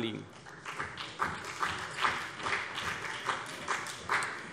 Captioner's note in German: Beifall CDU und BÜNDNIS 90/DIE GRÜNEN